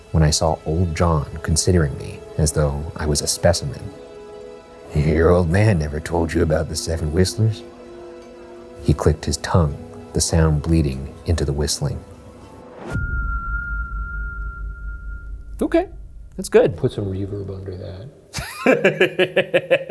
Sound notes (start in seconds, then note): 12.9 soft whistling; 18.3 laughs